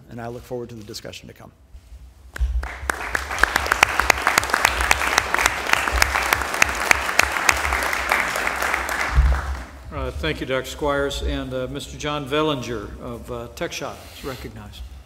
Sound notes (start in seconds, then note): 2.3 applause